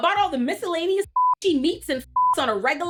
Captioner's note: beep